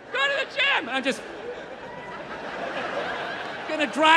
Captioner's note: crowd laughs